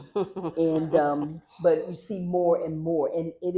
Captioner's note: laughter